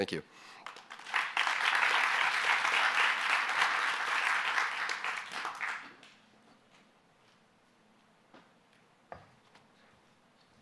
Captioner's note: applause